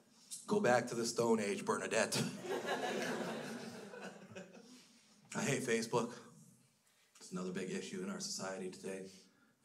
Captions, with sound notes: Go back to the stone age, Bernadette. (crowd laughs) I hate Facebook. It's another big issue in our society today.